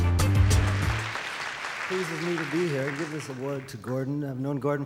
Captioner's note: audience applause